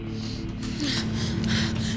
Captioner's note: gasping